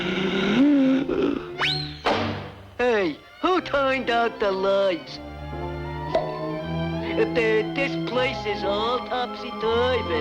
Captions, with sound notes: (Virgil inhales deeply) - Hey, who turned out the lights? (hat pops) Ah, this place is all topsy-turvy.